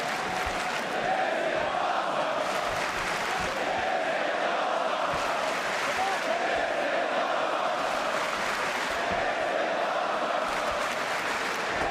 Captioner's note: crowd cheering